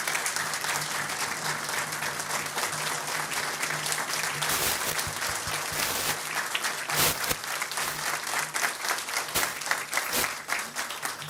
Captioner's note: applause